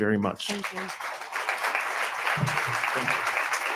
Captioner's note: attendees applauding